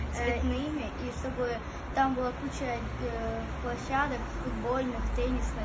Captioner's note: speaking foreign language